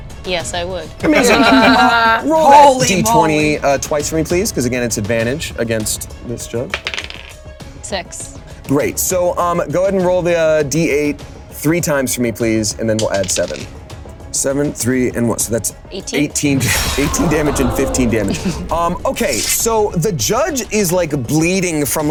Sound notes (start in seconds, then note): 1.0 players laughing; 6.7 dice rolling; 13.0 dice rolling